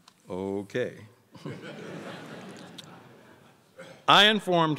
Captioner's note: crowd laughs